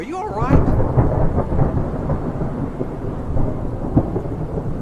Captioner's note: thunder cracking